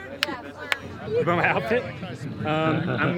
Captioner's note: laughs